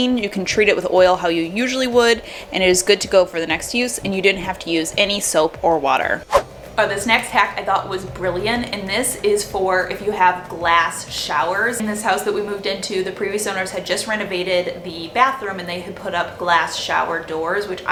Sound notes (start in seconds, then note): 6.2 whooshing